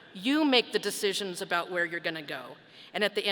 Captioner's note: none